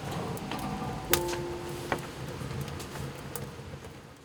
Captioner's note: fire crackling